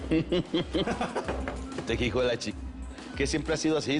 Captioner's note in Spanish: Risas